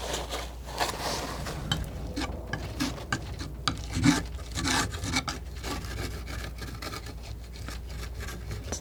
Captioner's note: scraping